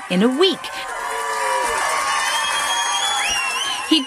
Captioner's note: cheering